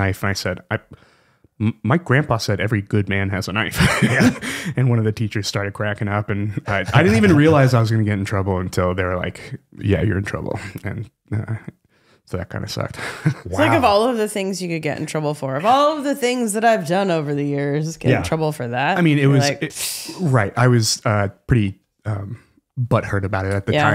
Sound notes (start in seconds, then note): 3.8 laughing